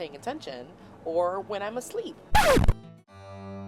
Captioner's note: record scratches